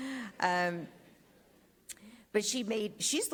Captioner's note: speaks Spanish